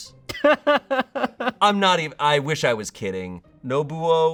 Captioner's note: laughs